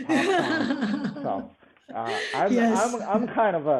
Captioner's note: laughs